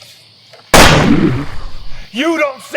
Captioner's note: gunshot